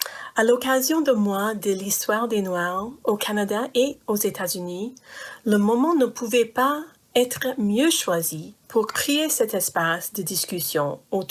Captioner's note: speaking french